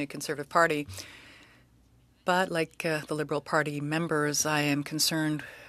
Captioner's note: speaking French